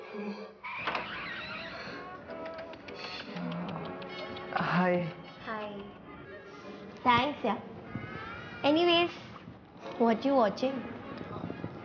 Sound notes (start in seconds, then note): 0.6 door opening